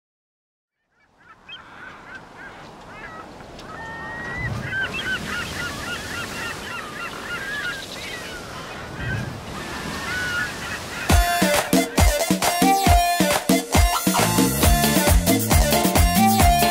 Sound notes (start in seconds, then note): 1.4 gaviotas graznando; 5.6 olas en playa